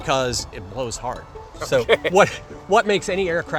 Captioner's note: laughs quickly